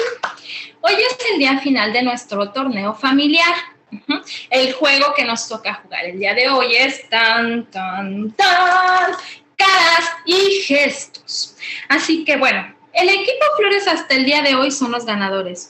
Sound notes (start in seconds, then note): 0.9 woman speaking Spanish